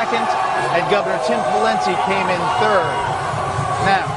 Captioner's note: very loud cheers from crowd